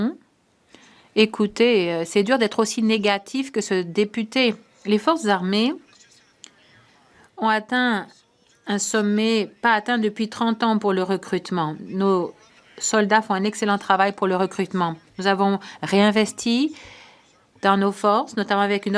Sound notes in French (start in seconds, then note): 3.2 voix de l'interprète